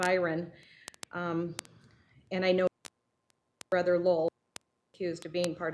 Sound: audio cutting in and out

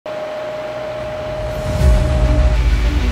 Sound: machine whirring; bright uplifting music

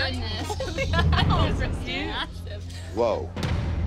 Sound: laughs

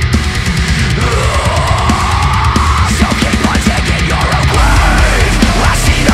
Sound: scream

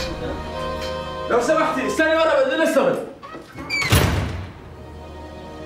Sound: Arabic spoken audio

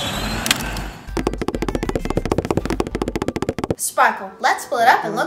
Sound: taps

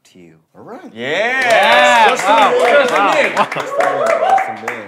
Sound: sound of clapping

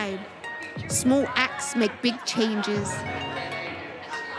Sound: people laughing; upbeat music

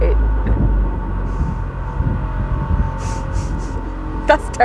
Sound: loud, Groaning, Metal Scraping Noise

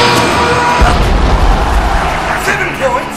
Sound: explosion

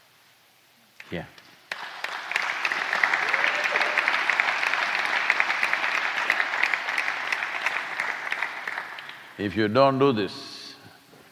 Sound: applause

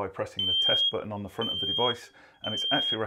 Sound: alarm beeping

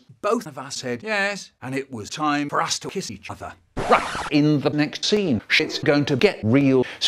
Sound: record scratch

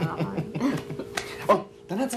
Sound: chuckling

